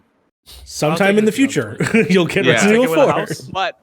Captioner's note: laughs